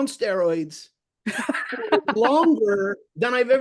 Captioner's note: laughs